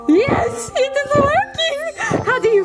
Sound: audio chimes

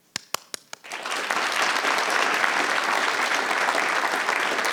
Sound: audience applauding

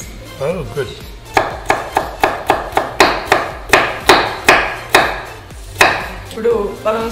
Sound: chopping Noise

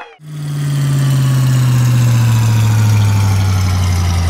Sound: engine slowdown

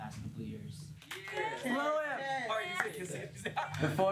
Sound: cheers

